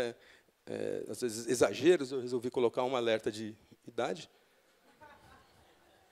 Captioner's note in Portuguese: risos